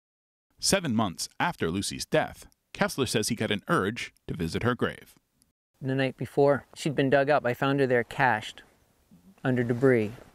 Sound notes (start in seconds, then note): none